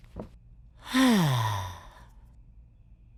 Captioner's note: deep sigh